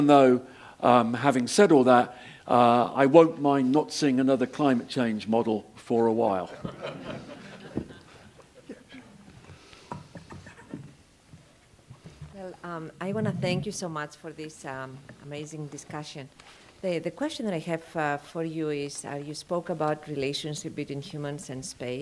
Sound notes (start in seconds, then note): 6.6 laugh